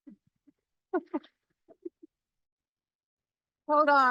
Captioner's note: laughing